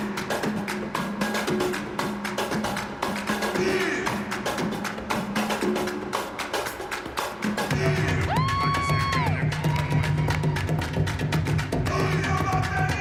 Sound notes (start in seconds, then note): 7.8 whoops loudly; 9.4 cheering